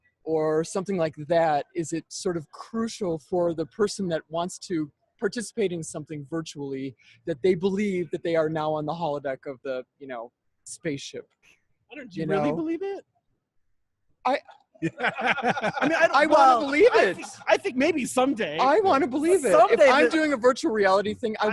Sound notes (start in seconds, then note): 14.8 all laughing